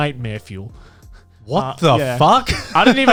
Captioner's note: laughs